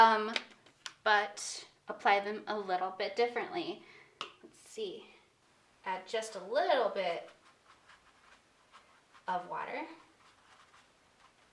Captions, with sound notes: but apply them a little bit differently. Let's see. Add just a little bit of water (paintbrush scratching)